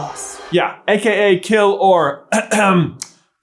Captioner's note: ahem